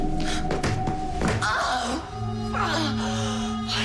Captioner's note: eerie music; screaming